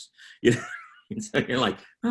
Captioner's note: laughing